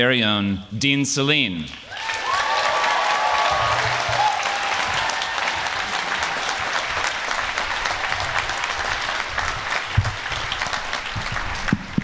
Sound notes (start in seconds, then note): 5.3 applause